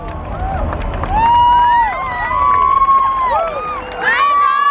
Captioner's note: crowd cheering